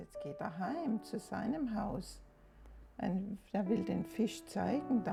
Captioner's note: speaks in German